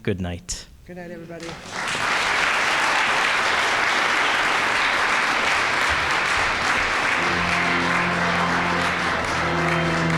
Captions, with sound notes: Good night. - Good night everybody. (audience applauding) (organ music)